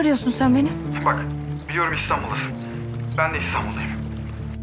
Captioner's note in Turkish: Tarık ses